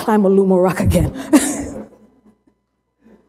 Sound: laughter

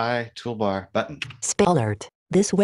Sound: automated Voice

